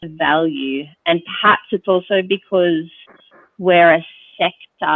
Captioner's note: none